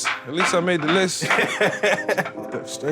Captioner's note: laughing